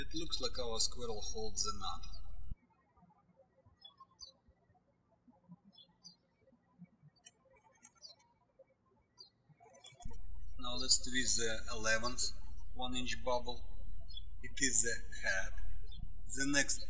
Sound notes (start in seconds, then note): 3.4 birds chirping